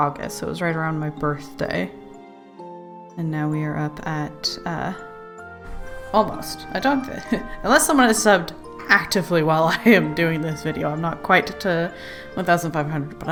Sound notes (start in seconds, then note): 7.2 laughs